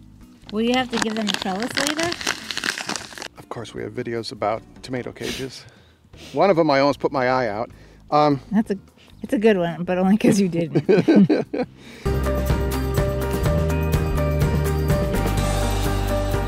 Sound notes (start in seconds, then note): 10.6 both laughing; 12.2 upbeat bright music